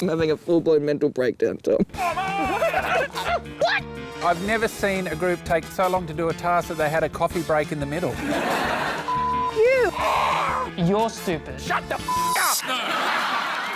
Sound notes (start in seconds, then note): 9.9 screaming